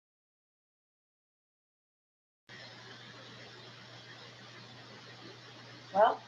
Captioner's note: momentary silence